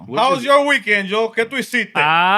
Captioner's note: speaking Spanish